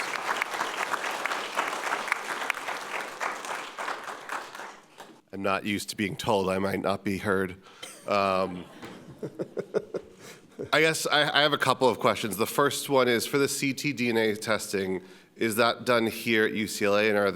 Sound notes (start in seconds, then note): 0.0 audience applauding; 8.7 audience laughing